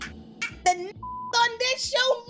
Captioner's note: beep